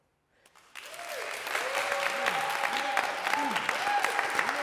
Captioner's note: applause